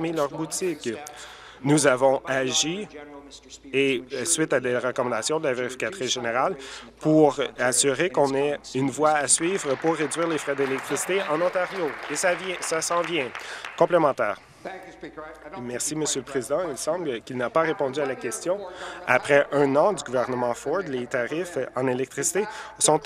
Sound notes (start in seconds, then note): 12.9 applause